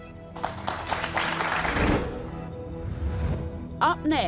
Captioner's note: crowd clapping